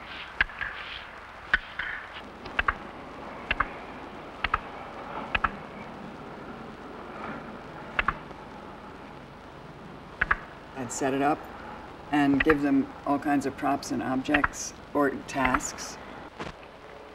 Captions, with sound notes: [sound of two blocks being clapped against each other, delayed from the visuals] I'd set it up and give them all kinds of props and objects or tasks.